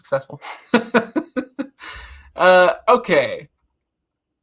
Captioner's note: laughs